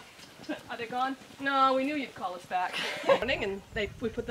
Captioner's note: happy laughter